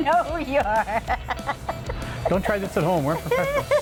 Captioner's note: laughing